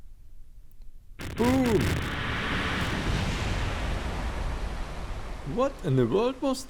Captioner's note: Pooh splashes into the water and a random explosion occurs